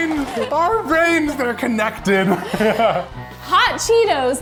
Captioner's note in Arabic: يضحك